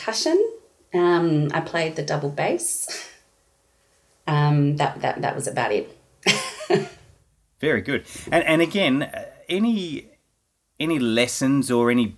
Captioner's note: laughing